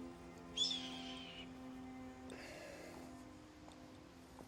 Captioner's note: bird cawing